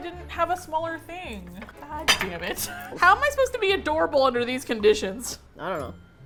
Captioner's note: laughs